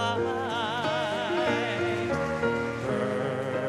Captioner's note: audience clapping